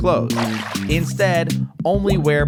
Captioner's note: water splashes